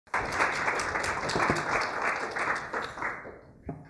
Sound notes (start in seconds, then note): 0.0 applause